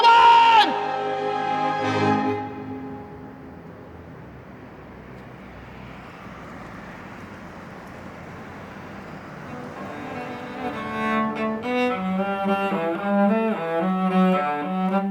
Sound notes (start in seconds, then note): 0.6 triumphant music; 4.6 cars passing; 11.7 classical cello music